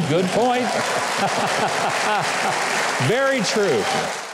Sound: audience applauds

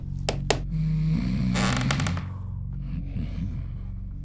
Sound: snoring

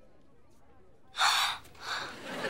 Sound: gasping

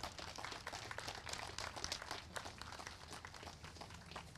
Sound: applause

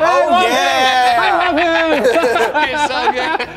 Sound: laughing

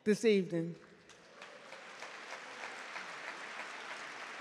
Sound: audience clap

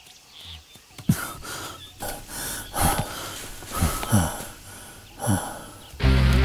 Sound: panting

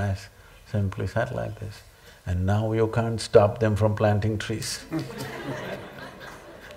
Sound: laughter

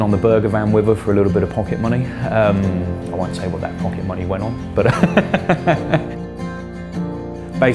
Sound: laughs

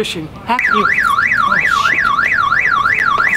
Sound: car alarm blares

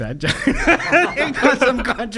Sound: laughing

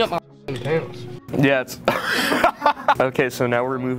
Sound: laughing

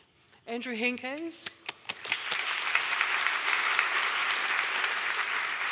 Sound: audience applauding

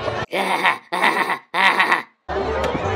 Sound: Beavis laughing

